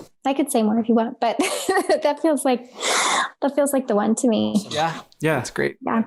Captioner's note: laughs